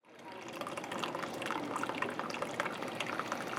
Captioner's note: coffee dripping